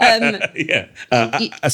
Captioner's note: laughs